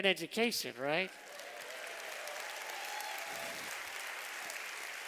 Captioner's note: applause